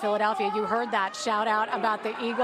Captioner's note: cheers and applause